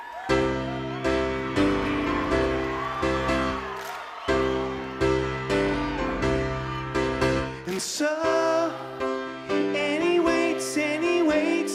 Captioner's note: cheers and applause